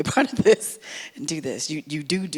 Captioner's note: laughs